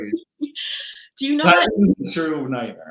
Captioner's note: laughing